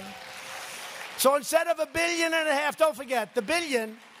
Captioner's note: applause